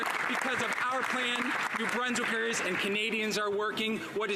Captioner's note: some Applause